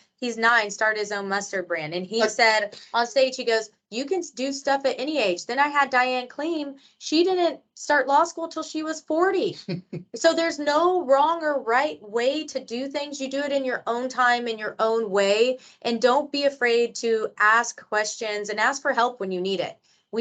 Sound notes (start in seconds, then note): 2.8 laughs; 9.6 chuckles